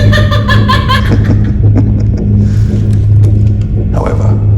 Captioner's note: guard laughs; Mr. Keith chuckles